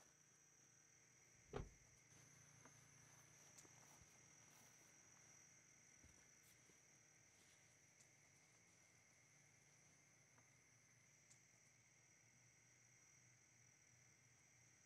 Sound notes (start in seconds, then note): none